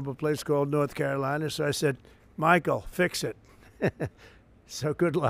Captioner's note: laughs